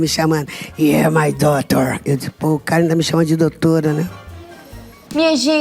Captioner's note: imitating Louis